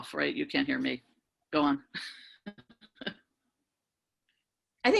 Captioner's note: laughs